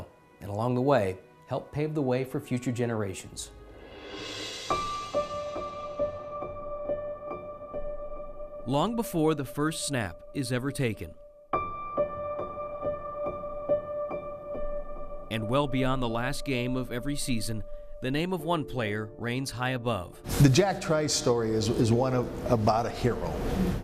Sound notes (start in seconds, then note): 3.6 swoosh; 4.7 piano music; 10.7 piano music